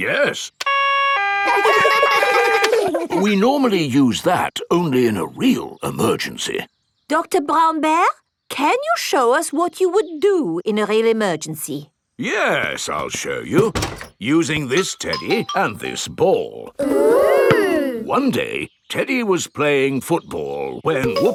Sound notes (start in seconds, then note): 0.6 siren wailing; 0.7 siren stops; 1.4 kids laugh